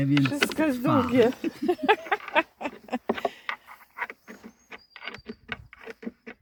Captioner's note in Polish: śmiech